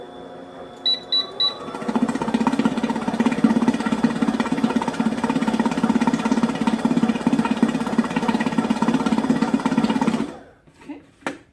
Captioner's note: mixer whirling